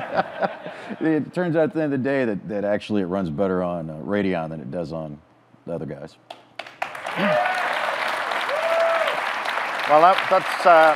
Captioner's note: audience claps, cheers